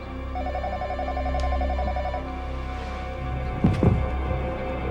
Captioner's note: phone ringing